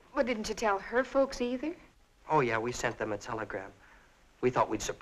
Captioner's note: none